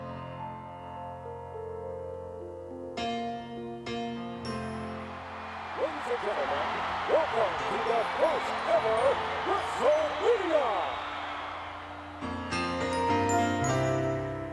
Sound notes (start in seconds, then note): 0.1 gentle music; 4.4 audience cheering and clapping